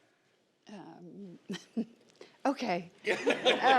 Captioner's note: audience laughs; chuckles